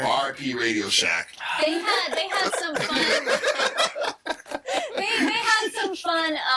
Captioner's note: all laughing